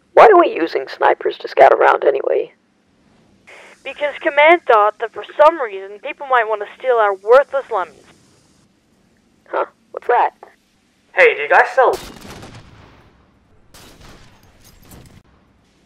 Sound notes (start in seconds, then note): 12.0 bang